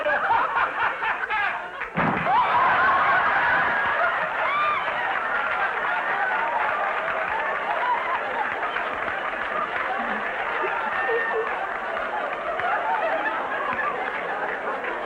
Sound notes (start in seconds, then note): 0.1 laughing obnoxiously; 1.9 audience gasping; 1.9 thump; 2.7 audience laughter; 5.7 laughter & applause; 11.8 audience laughter